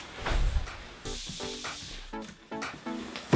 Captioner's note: box sliding on ground; bright disco music